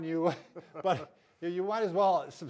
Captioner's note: both laugh